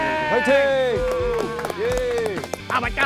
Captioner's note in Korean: 짝짝짝